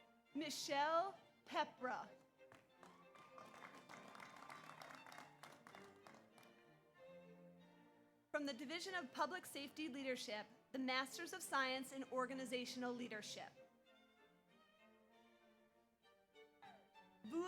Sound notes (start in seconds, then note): 2.5 audience applauds; 2.8 audience cheers